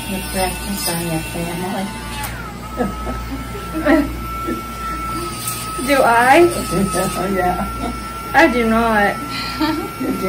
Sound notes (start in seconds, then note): 2.5 both laughing; 7.5 chuckles